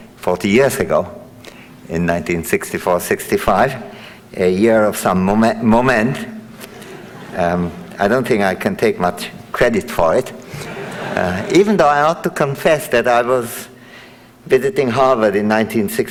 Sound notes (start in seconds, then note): 10.4 audience laughing